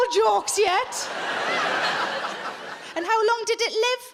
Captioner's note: audience laughing